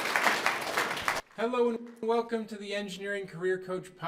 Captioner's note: applause